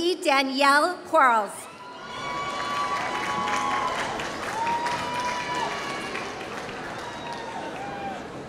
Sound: applause

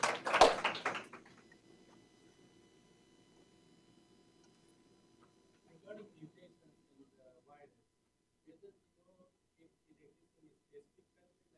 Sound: applause

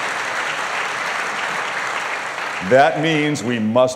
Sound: applause

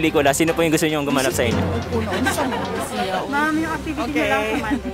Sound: laughs

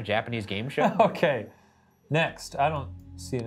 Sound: laughs

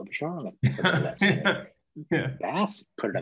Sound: laughing

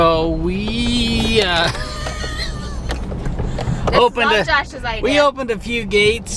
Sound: laughs

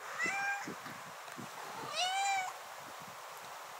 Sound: cat meowing

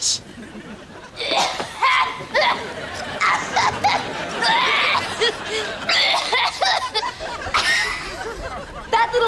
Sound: coughing

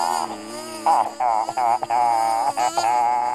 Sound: laughing

